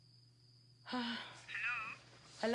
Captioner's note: exhales